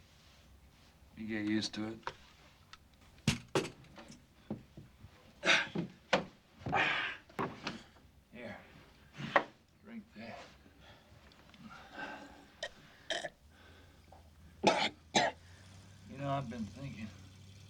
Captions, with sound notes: YOU GET USED TO IT. [groaning] HERE, DRINK THIS. [coughing] YOU KNOW, I'VE BEEN THINKIN',